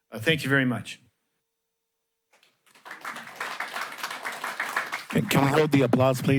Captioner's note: applause